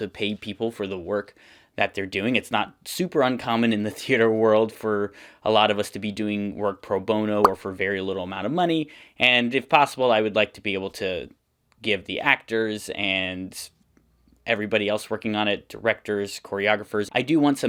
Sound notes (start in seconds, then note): 7.4 pop Sound